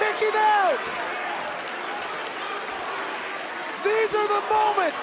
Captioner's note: crowd cheering